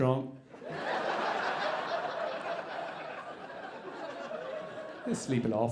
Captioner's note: audience laughing